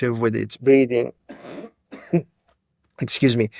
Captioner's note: coughs